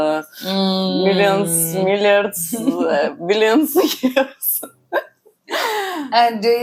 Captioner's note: laughs